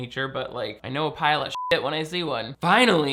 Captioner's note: beep